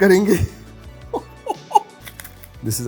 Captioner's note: laughs